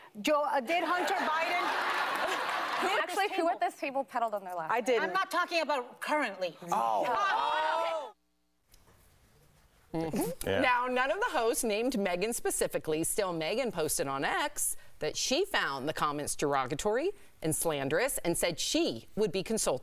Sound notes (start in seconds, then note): 3.2 laughter